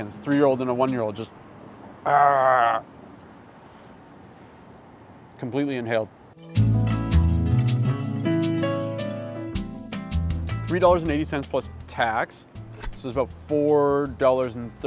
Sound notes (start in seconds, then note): 2.0 imitating kids roaring; 6.3 gentle upbeat music